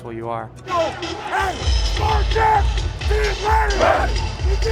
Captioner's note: team chanting